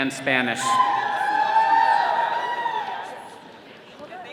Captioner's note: all cheering